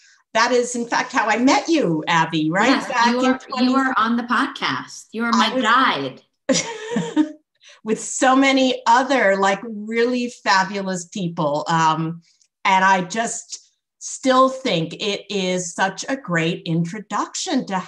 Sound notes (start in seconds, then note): 6.6 laughs